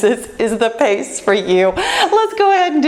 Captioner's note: laughs